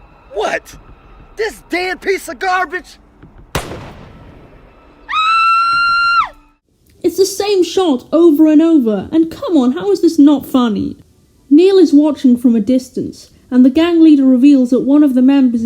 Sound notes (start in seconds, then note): 0.0 scream; 5.0 scream; 6.0 gunshot